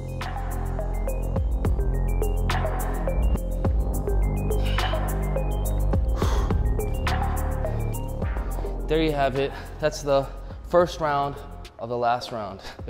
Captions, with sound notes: (hiphop music) (soft groaning) (exhaling) There you have it. That's the first round of the last round,